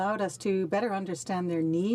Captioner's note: speaking French